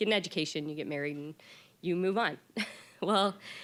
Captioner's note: laughing